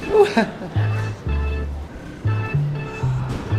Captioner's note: laughing